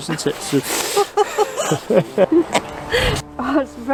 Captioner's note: everyone laughing